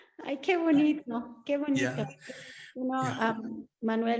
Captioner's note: Sandra speaking Spanish